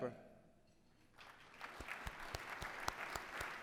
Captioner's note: applause